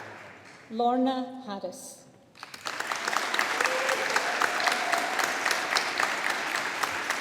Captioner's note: audience applauding